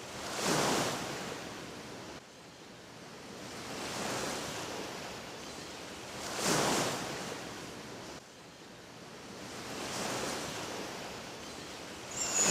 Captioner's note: Sound of waves on the sandy beach